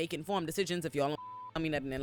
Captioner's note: beep